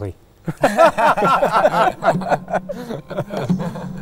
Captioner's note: all laughing